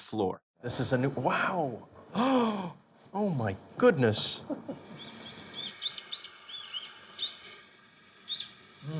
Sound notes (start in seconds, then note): 2.0 gasping; 3.2 birds chirping, water running